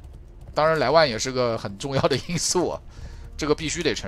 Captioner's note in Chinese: 大笑